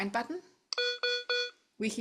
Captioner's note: device beeps three times